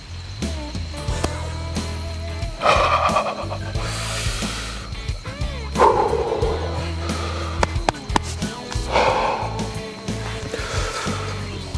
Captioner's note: whispering